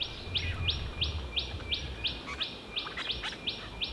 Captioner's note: birds chirping